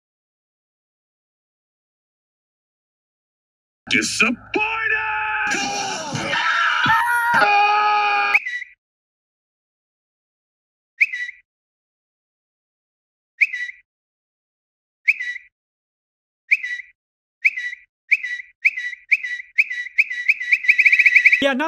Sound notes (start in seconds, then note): 6.2 screaming; 8.3 tweeting